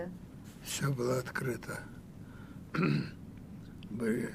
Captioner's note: clears throat